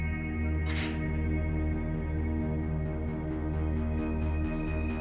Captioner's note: gate clanking; soft upbeat music